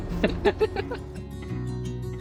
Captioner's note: laughing